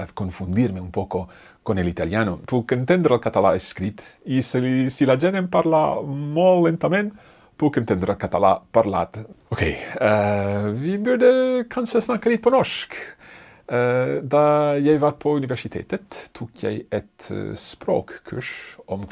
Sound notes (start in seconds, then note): 2.8 speaks in foreign language; 10.4 sighs; 11.5 speaks in foreign language